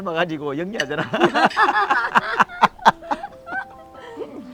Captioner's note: both laughing